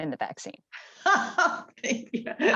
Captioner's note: laughs